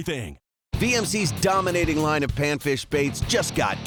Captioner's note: voiceover